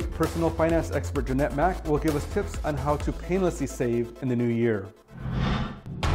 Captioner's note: upbeat music; air whooshing